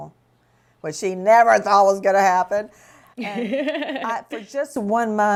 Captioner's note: laughs